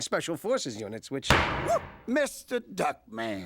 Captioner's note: gavel bangs